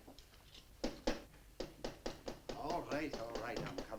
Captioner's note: knocking on door